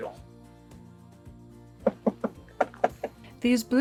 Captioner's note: knock knock knock